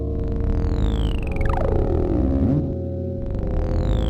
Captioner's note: ugh.... ugh... uuuuugh...!